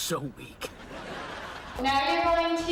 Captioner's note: people laughing